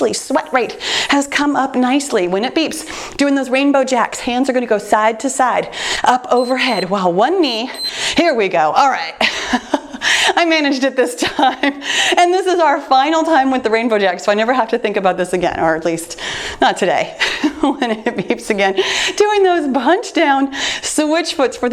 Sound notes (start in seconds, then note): 6.3 timer beeps